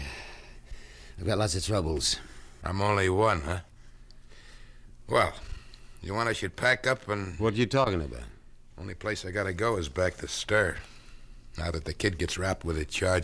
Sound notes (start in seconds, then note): none